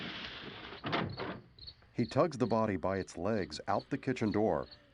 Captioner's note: crickets chirping